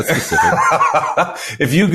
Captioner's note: laughing